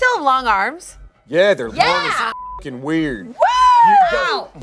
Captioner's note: beep